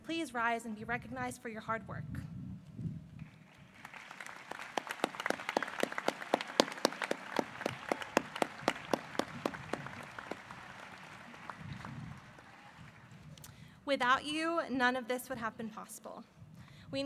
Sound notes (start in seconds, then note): 3.2 applause